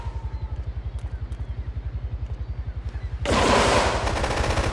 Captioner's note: gun firing